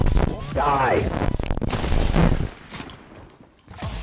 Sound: single shotgun blast

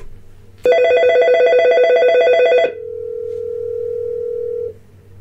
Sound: dialing tone, and ringing

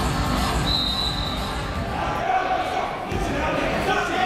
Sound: whistle

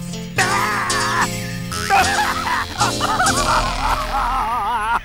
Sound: screaming, crying

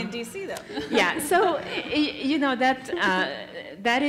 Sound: laugh

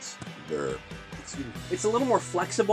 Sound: burp

